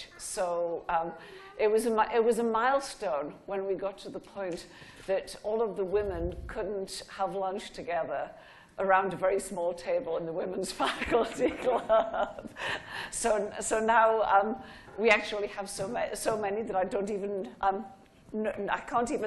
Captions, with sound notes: So it was a milestone when we got to the point that all of the women couldn't have lunch together around a very small table in the women's faculty club. (laughing) So now, we actually have so many that I can't even list off everybody.